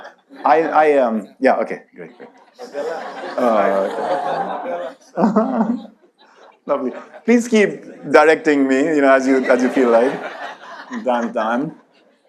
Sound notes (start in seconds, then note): 3.3 audience laughs; 5.1 laughs